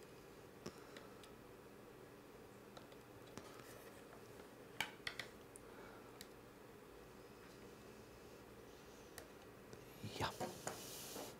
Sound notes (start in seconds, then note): 4.8 quiet cracking; 9.8 quietly